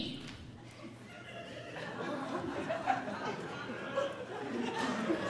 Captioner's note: audience laughing